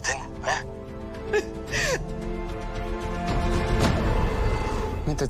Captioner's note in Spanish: Sollozos